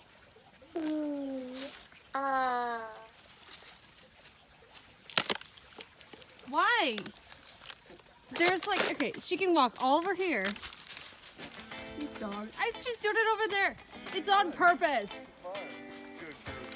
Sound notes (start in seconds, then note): 0.2 loud foot steps and water trickling; 5.0 loud cracking of ice; 8.3 more ice loudly breaking